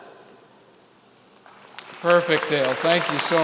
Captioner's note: applause